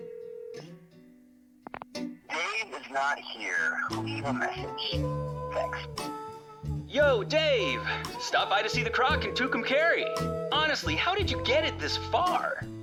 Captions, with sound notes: - [voicemail] Dave is not here. Leave a message. Thanks. - Yo, Dave! Stopped by to see the Croc in Tucumcari! Honestly, how did you get it this far?